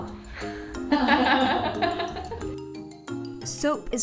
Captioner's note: laughing